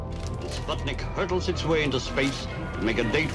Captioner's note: radio voice